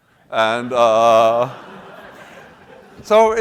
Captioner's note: laughter